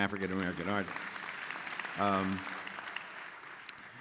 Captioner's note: audience clapping